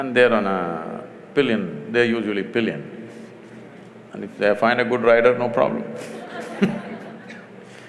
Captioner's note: laughter